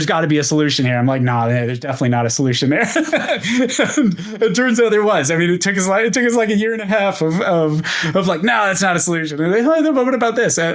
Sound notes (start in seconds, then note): 2.8 laughs